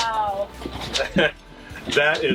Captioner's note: laughing